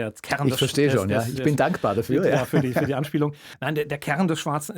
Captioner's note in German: gelächter